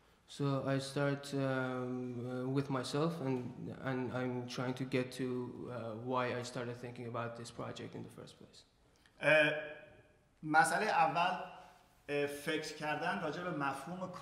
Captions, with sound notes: So I start with myself, and I'm trying to get to why I started thinking about this project in the first place. [SPEAKING IN FARSI]